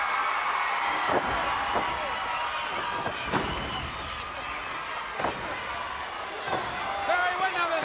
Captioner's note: crowd cheering